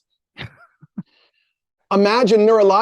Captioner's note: chuckles